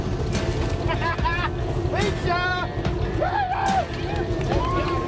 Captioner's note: laughing and cheering